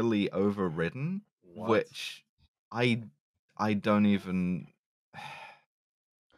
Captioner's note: sighs